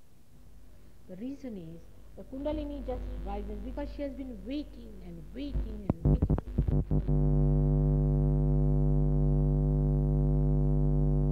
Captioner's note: noise in mp3; noise in mp3